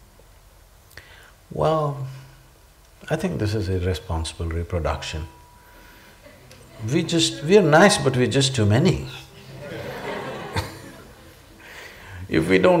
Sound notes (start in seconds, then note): 9.4 laughter